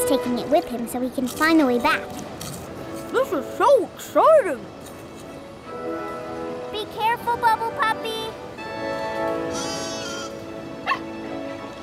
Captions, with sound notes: He's taking it with him so he can find the way back. This is so exciting! Be careful, Bubble Puppy! [bleating] [barking]